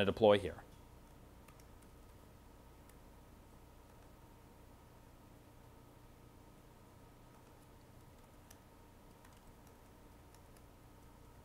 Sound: typing

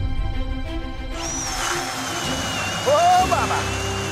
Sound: triumphant music; auger drilling

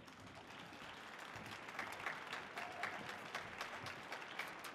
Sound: audience applauding

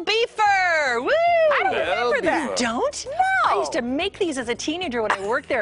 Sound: laughter

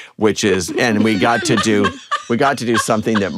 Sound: laughter

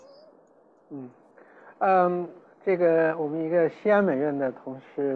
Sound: Mandarin

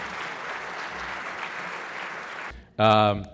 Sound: applause

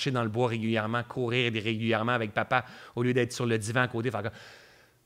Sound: soupir

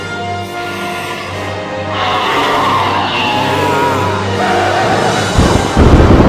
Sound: roaring

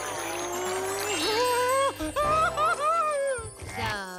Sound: laughing

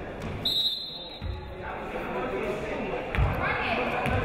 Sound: whistle blows

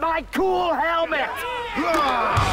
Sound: cheering

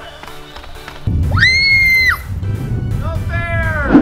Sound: screams

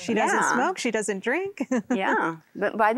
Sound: giggling

